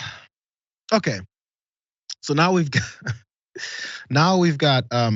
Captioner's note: laugh